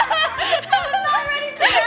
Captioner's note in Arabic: الكل يضحك